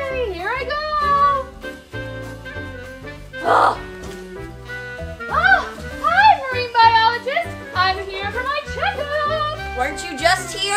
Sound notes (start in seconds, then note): 3.4 assistant groans